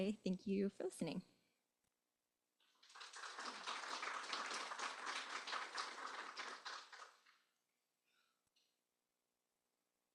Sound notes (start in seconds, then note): 2.7 applause